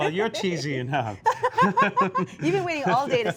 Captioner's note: laughs